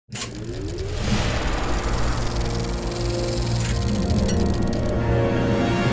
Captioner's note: soft dramatic music; projector whirring